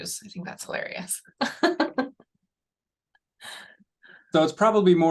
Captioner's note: laughter